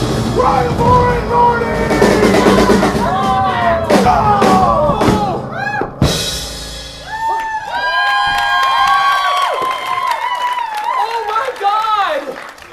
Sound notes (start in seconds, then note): 5.5 Doc screams; 6.9 audience cheers and applause